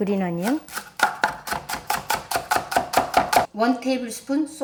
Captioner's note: knife slicing